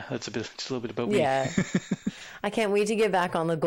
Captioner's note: laughing